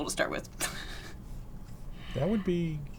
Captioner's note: laughs